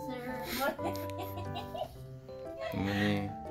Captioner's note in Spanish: Risas